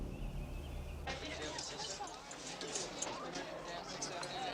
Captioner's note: chatter